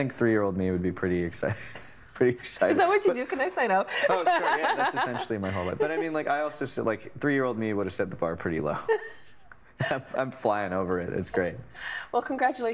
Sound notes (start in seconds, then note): 2.0 chuckling; 4.0 laughing